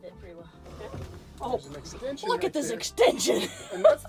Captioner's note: laughing